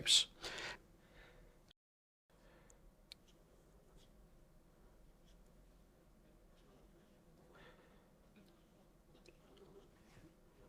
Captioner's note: silence